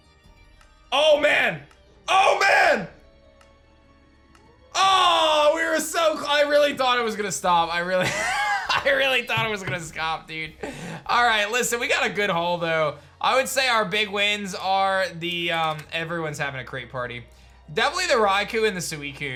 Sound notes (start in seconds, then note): 8.0 chuckles